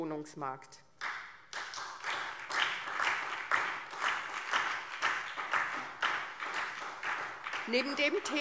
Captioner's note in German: Beifall SPD und DIE LINKE